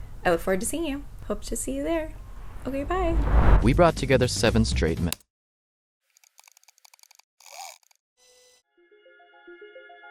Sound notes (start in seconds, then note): 6.2 keys clacking